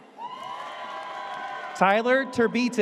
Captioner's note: audience cheers